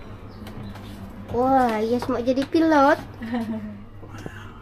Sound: laughing

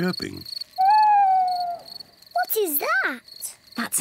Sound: owl hoots

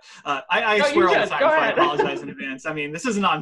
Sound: laughs

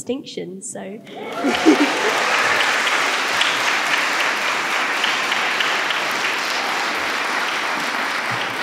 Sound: applause

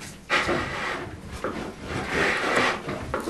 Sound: grinding noises in the background

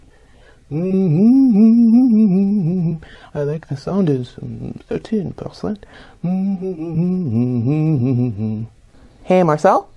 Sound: Marcel hums a song and mumbles to himself

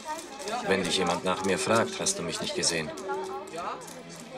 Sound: in German

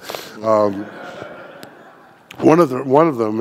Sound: audience laughing

